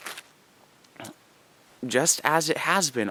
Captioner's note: pause